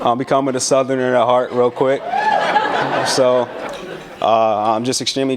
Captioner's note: cheers and laughter